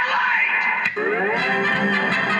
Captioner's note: click